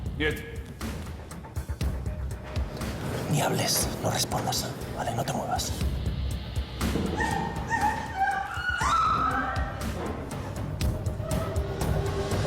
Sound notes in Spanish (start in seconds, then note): 6.9 Gemidos; 7.2 Grito